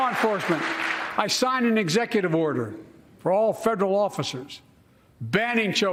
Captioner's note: cheers and applause